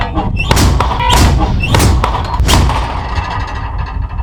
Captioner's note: slamming